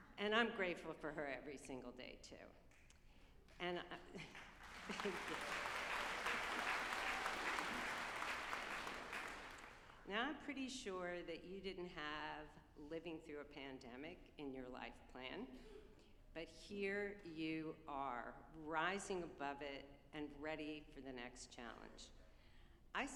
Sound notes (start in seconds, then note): 4.2 group applauding